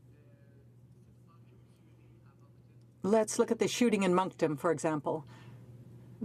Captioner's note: speaking in french